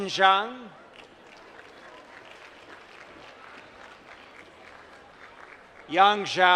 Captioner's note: applause